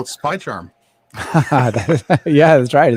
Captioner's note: laughing